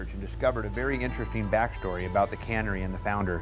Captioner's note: none